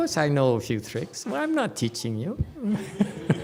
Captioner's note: laughs, audience laughs